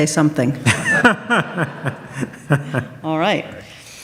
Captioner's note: audience laughs